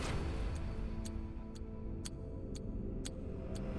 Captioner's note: upbeat music; clock ticks